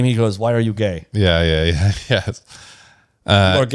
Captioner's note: laughs